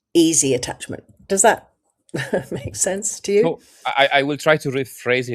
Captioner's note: laughs